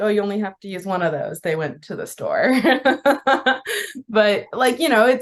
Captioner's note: laughs